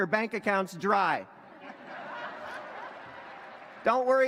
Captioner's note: laughter